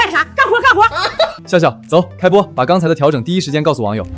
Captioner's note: laughs